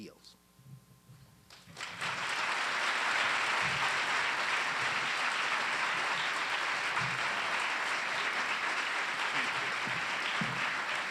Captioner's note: applause